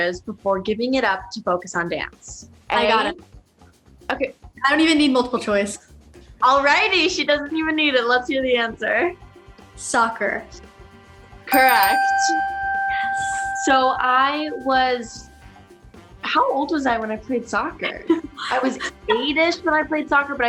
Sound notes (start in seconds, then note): 11.5 ding; 17.8 Jules laughs